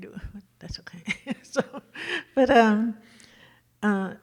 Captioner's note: laughs